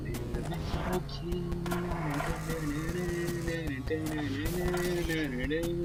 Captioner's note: now he's humming